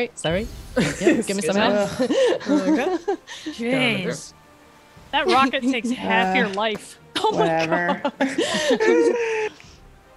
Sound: laugh

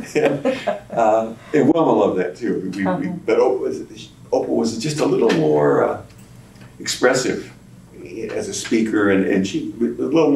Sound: laughter

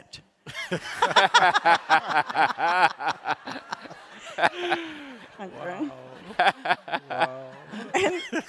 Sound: laughter

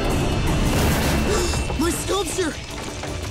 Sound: gasping

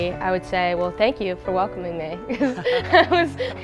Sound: laughs

